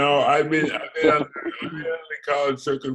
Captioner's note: giggles